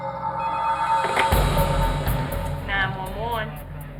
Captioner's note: phone ringing